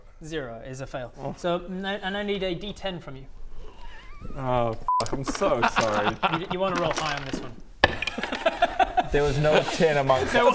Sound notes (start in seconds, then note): 5.1 delighted noises